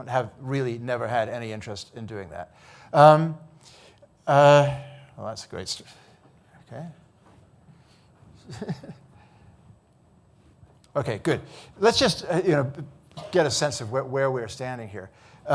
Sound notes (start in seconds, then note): 8.4 chuckles